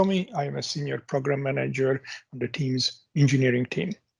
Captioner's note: coughs